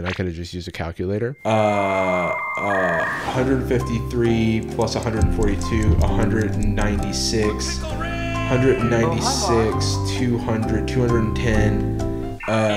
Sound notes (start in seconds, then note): 1.8 dial up tone; 6.2 thinking music